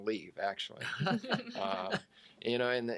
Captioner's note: all laugh